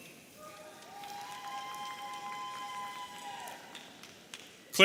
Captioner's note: audience cheering